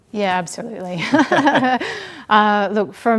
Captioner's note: laughs